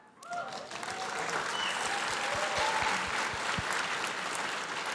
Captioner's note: crowd applauding